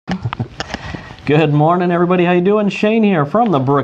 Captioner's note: laughs